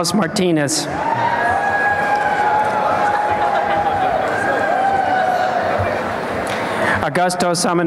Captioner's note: applause and cheering